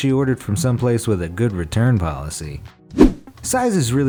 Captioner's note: air whooshes